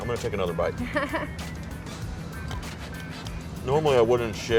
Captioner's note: laughs